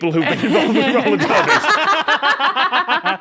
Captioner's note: group laughing